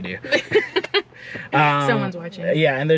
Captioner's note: both laughing